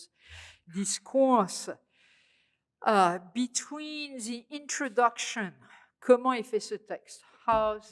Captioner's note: speaking french